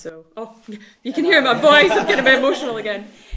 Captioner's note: all laughs